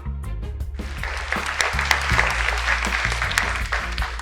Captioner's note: audience applauds